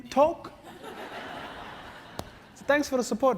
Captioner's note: laugh